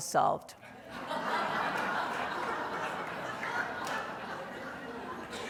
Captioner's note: audience laughing